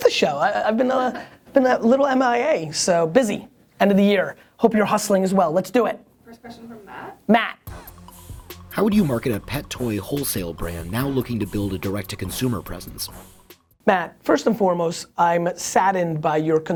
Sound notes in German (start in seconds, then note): 8.5 Voice-over